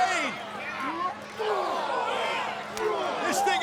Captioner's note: crowd groaning